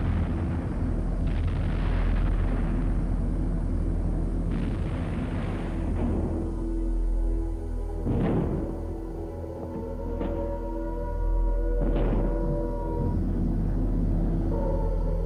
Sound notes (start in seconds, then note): 7.8 siren blaring